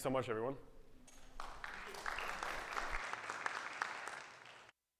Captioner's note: audience clapping